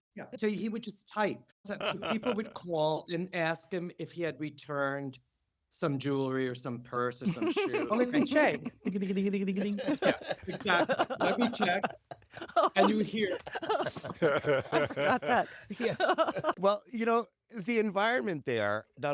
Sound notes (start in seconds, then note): 1.7 laughter; 7.2 laughter; 12.7 laughter; 13.8 rapid keyboard clacking; 15.0 laughter; 16.0 laughs